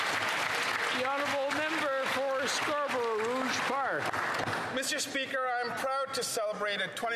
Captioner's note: applause